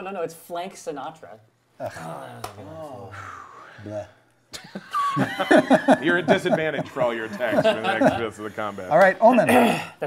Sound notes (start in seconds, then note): 1.9 groaning; 4.6 laughing